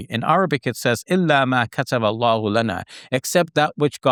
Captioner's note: speaks Arabic